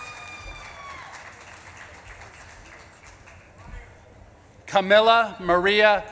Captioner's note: audience claps and cheers